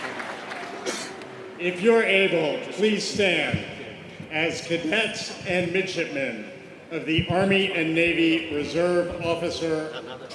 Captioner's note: applause